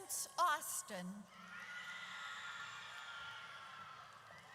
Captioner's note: audience cheers